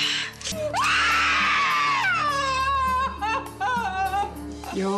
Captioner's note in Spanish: grito